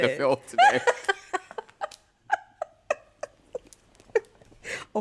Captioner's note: laughter